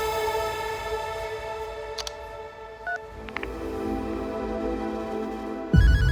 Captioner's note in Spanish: Suena el celular